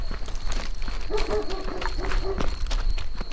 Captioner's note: footsteps crunching; insects chittering; dog barks; footsteps crunching; insects chittering